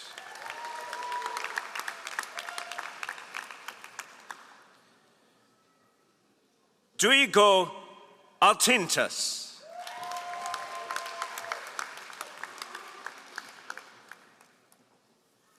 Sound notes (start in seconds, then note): 0.0 all applauding; 9.6 all applauding